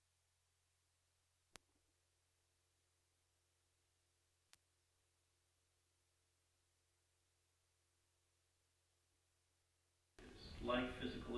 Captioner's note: audio malfunction